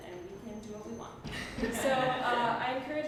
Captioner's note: laughter